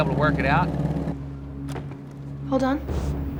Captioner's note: quiet thump